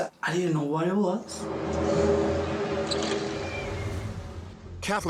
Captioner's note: groaning sound